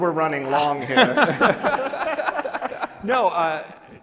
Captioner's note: laughing